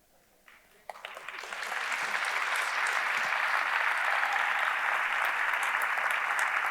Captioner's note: audience applauding; audience cheering